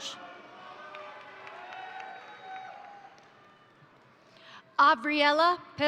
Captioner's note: crowd cheering; crowd applauding